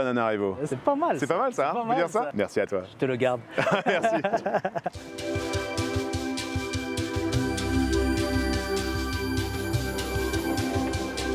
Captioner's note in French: rires